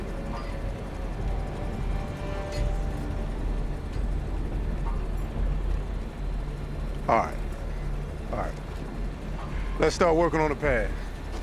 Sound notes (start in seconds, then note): none